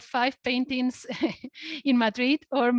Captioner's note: laughs